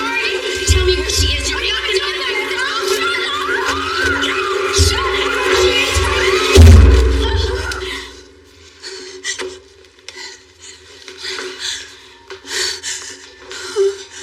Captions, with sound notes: Tell m me where shshe is. (girirls screamingng) Shutut up!